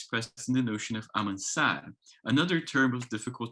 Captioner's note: speaks in foreign language